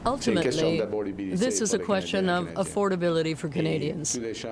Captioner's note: speaking french